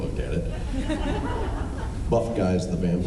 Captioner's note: laughs